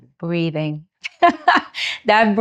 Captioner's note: laughs